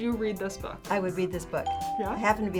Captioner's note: ding